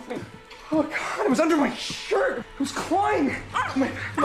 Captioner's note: gasps